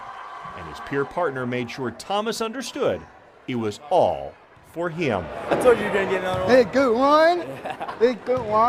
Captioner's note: cheer